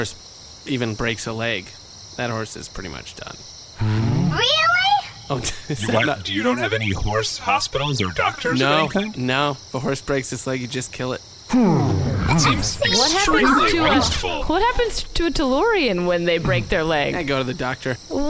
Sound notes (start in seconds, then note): 13.0 Juno neighs in shock